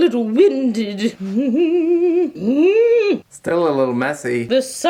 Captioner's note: humming